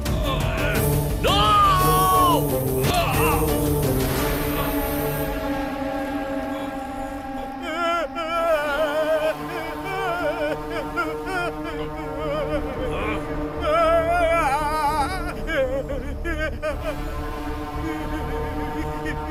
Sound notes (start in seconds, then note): 7.7 Naga wailing